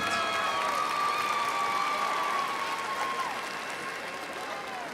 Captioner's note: crowd applauds